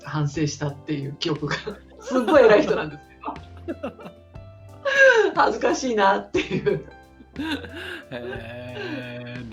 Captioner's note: laughs